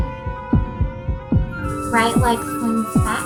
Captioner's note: heartbeat